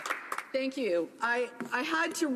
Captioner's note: applause